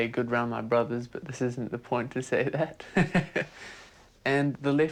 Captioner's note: laughs